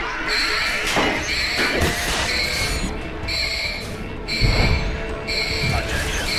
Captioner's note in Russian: сирены тревоги